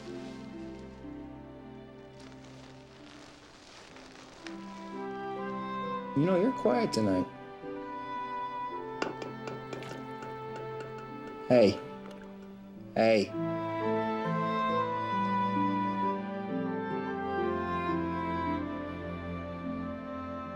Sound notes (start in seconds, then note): 0.1 mellow music; 9.0 tapping on glass; 14.5 mellow music